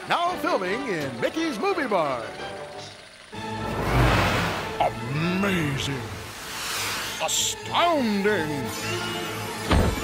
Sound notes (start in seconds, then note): 3.5 background draft gusting